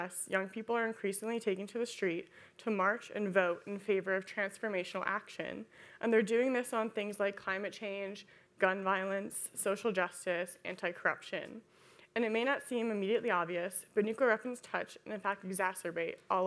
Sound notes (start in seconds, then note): none